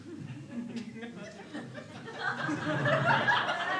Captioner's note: crowd laughs